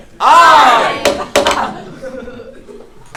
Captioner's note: gavel